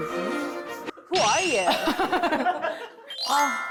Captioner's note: sound effect wondering who on earth this is